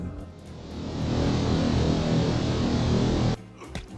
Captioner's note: Skedaddle button intensifies